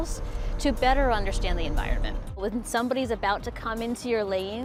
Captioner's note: none